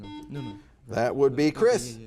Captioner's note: buzzer buzzes